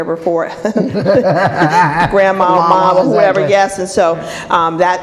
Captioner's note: laughing